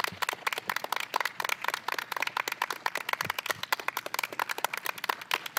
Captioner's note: applause